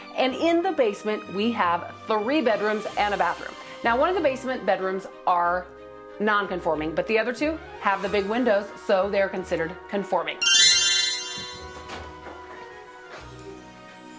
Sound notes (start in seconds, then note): 10.4 magical tinkling